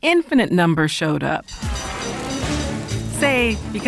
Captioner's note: bell ringing